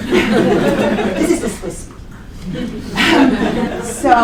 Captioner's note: laughter